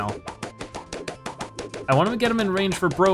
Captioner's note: balloons popping rapidly